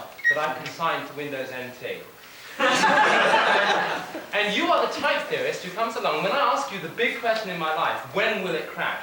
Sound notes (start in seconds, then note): 2.5 laughter